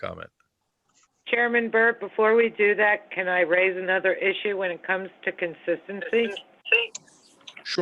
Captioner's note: phone